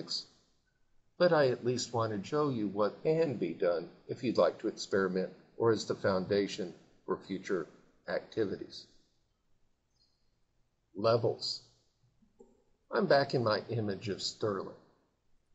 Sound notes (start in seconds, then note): 8.3 silence